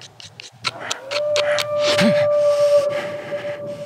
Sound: ominous Animal Howling

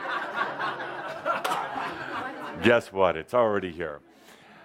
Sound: laughter

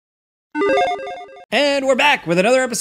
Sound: logo beeps

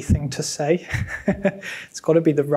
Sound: person laughing

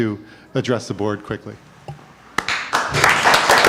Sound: applause

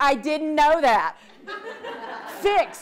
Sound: audience laughs

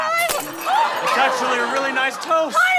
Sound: glass shatters

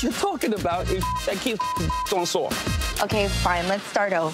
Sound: beep

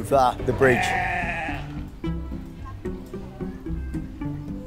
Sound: sheep bleating

